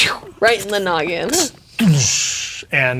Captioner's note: imitates explosion